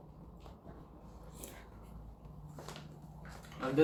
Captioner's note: slurp